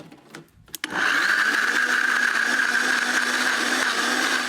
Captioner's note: blender whirring